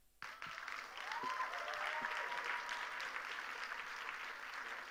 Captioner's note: audience applauding